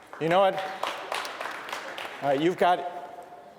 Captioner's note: clapping